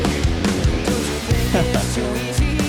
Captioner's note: laughs